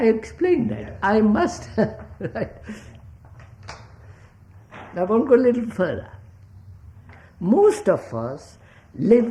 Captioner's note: laughs